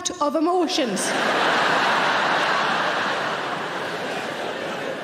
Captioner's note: audience laughing